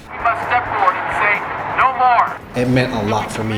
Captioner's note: megaphone